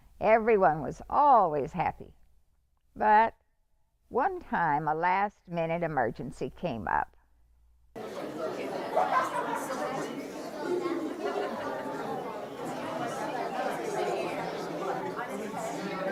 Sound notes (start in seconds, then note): 7.9 group chatter